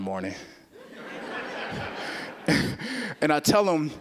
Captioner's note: audience laughing